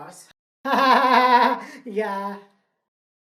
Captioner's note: nervously laughs